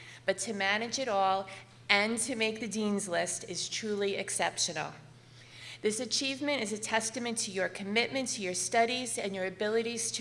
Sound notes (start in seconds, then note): none